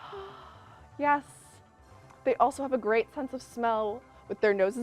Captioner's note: sighs